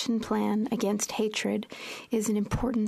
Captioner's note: speaking French